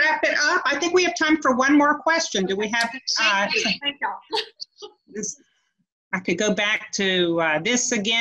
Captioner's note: overlapping chatter